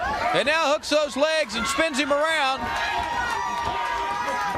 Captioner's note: crowd cheering